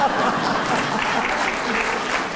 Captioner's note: laughter